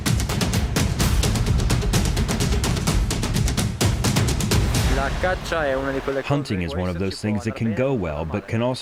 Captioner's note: through translator